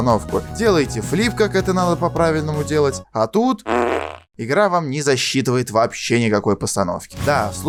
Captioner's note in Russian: пук